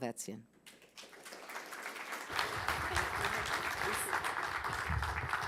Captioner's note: audience applauding